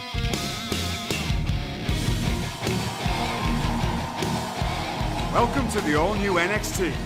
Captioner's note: crowd cheering